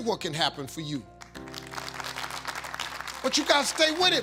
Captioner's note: audience applauding